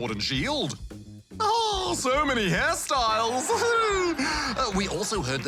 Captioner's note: laughter